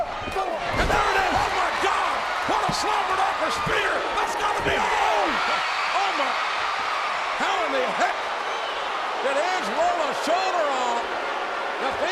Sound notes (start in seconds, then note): 6.7 audience cheers